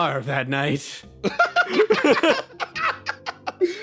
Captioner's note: laugh; laughs